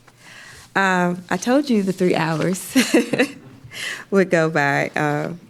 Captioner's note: laughs